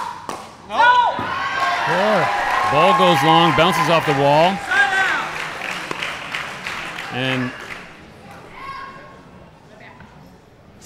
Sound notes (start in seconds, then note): 0.0 ball bouncing; 2.1 audience cheering; 6.4 audience applauding; 7.6 chattering